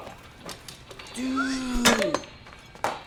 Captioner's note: whistles